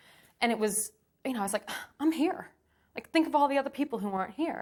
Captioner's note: gasps